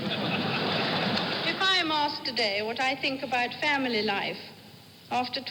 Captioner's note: laughter